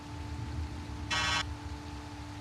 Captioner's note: roboty beeps